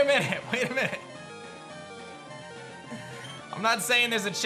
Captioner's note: giggles